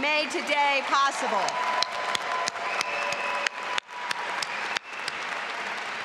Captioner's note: audience applauding and cheering